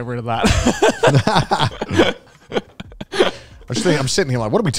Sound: everyone laughs

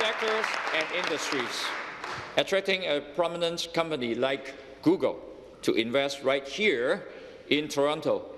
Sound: applause

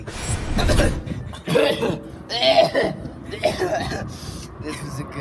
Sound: epic gamer coughing

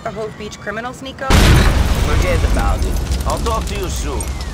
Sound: crash

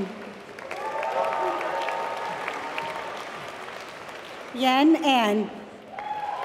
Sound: applause

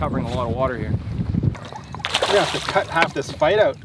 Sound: splashing

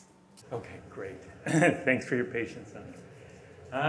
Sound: laughs

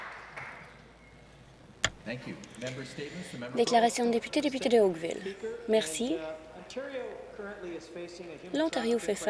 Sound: applause

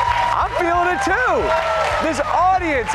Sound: applause

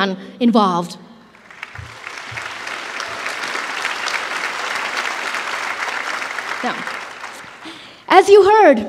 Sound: applause

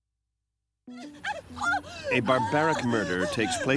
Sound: screaming

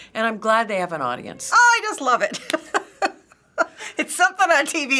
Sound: laughing

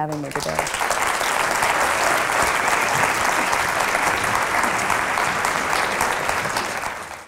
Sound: applause

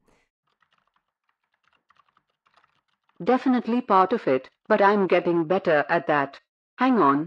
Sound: background SFX: Keyboard typing

